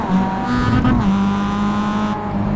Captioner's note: revvies